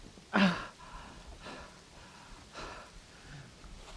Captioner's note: Arawn groaning